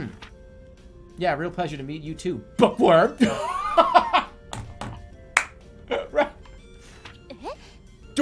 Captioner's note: mocking laugh